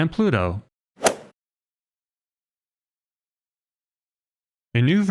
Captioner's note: golf ball hit sound effect